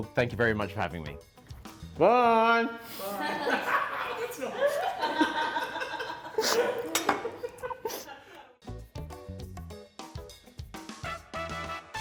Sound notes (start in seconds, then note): 2.9 chefs laughing; 8.6 bright music